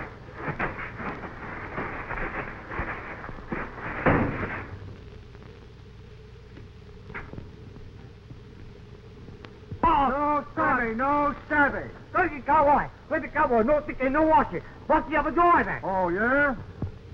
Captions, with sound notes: - No shouting, no shouting. - Crazy cowboy, crazy cowboy no washing. (speaking in foreign language) - Oh yeah?